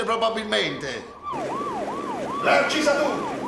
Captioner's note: police siren in background